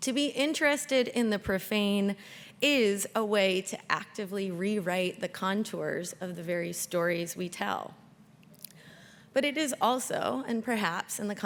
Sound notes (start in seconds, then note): none